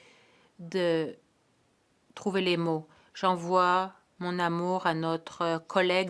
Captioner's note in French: voix de l'interprète